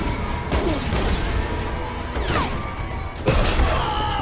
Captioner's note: laser blasting